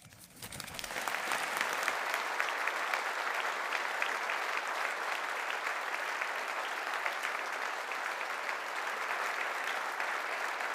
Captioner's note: applause